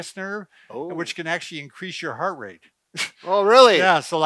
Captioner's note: chuckles